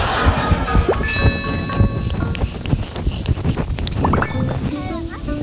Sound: run to his friend, gasping for breath

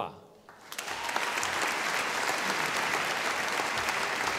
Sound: audience applauding

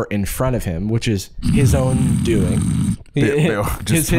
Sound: fake snoring

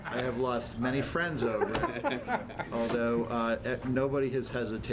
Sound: laughter

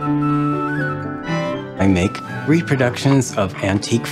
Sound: none

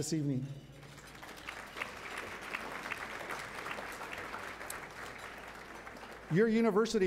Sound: applause

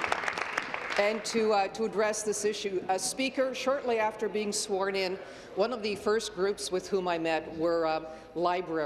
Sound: applause

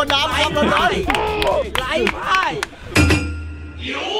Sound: applauding

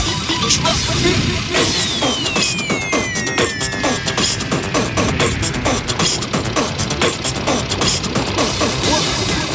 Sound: beat Box

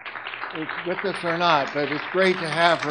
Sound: audience clapping

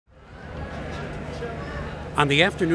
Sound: people talking

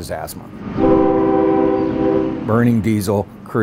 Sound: train horn

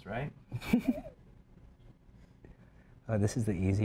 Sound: laughs

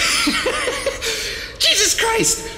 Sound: laughter

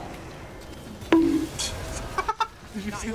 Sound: bonk Sound effect; chuckles

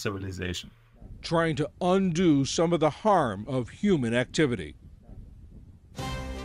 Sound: voice-over

